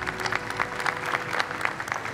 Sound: audience clapping

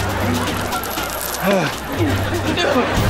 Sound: groaning

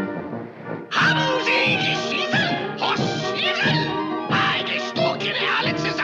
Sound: shouting in German

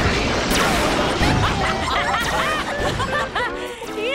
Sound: laughing

